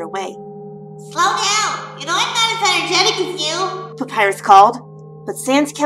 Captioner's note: dreamy echo